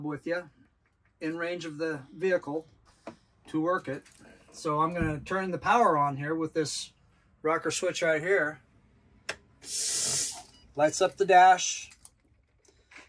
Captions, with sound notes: with you in range of the vehicle to work it. So I'm gonna turn the power on here with this rocker switch right here. (engine hisses) (dashboard beeps) Lights up the dash.